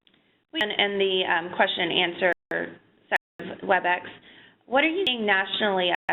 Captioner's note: voiceover